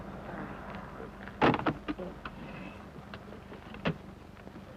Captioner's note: none